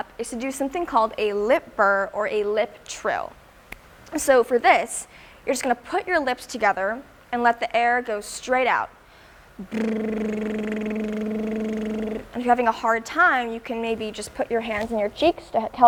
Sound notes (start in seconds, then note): 9.6 lip burring sound